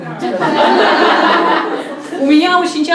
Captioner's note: laughter in the hall